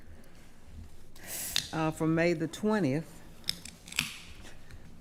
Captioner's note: pop can opening